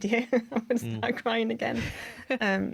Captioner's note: laughter